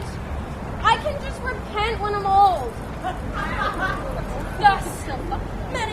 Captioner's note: laughter